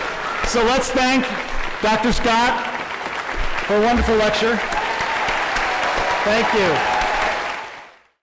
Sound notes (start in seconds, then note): 4.7 applause